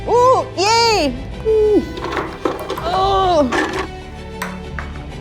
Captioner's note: groans